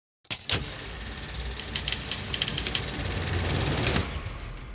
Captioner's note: reels whirring